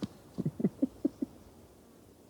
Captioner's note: laughing